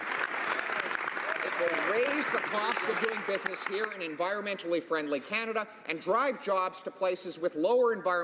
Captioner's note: some Applause